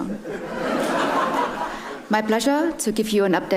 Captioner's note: audience laughs